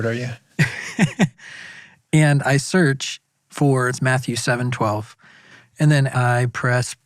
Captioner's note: laughs